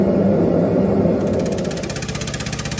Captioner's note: clicking sound